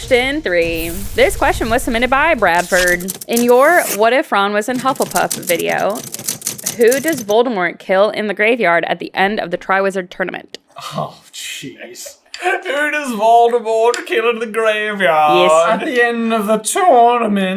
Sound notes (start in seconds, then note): 11.4 accented